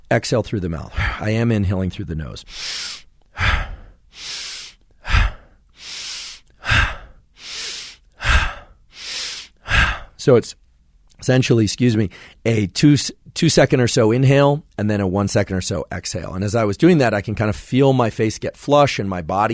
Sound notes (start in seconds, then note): 2.4 exhales; 3.2 inhales vigorously, exhales passively multiple times